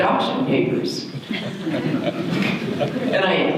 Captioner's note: audience laughter